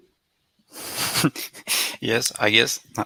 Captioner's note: laughs